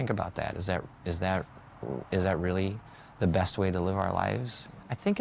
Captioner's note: stammers